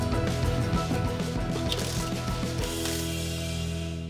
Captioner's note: drill whirring